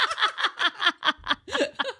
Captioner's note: laughing